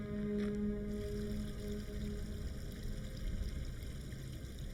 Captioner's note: water splashing